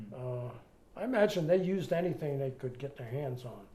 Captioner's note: none